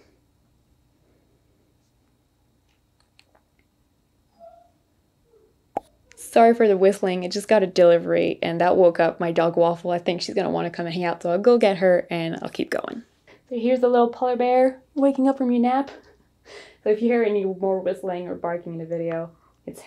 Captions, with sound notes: (soft whistling) Sorry for the whistling, it just got a delivery and that woke up my dog, Waffle. I think she's gonna want to come and hang out, so I'll go get her and I'll keep going. So here's a little polar bear, waking up from your nap. So if you hear any more whistling or barking in the video, it's her.